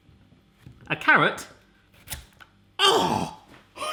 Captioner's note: gasps